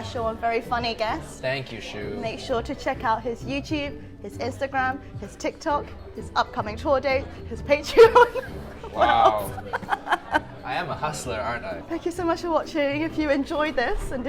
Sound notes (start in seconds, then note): 9.4 laughs